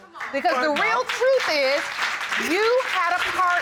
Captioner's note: audience applauding